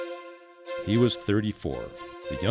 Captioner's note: voiceover